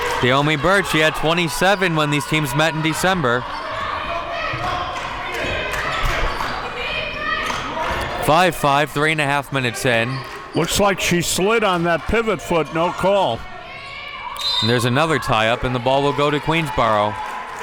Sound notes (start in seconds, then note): 14.3 whistle blows; 17.4 people clapping